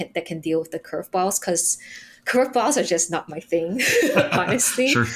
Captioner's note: chuckles